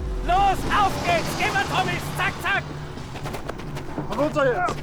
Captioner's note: speaks in foreign language